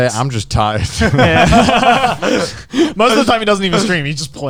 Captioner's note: laughing loudly